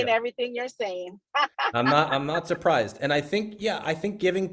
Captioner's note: laughs